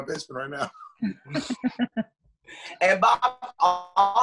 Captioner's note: laughs